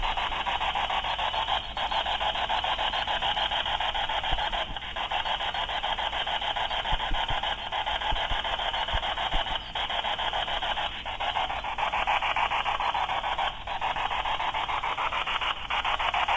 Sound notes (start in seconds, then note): none